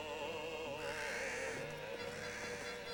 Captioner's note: ravens cawing